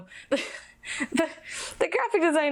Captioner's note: laughs